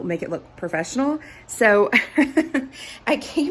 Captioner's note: laughs